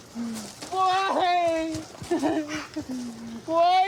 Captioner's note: sobs